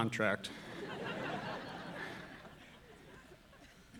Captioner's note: audience laughing